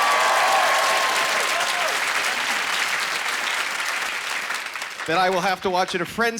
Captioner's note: cheering